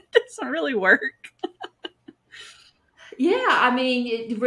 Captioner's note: laughs